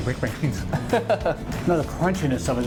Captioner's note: laughing